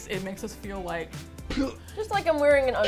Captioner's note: gag